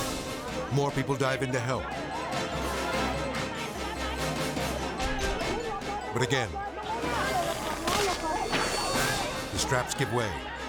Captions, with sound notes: More people dive in to help. (suspenseful music) (villagers shouting) But again, (harness snapping) the straps give way.